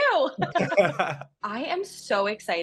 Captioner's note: both laughing